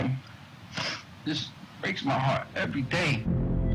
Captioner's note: sniffling